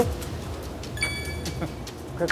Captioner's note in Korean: ㅎㅎㅎㅎ